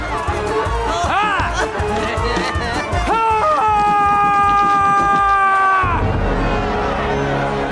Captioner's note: Moses shouting; dramatic music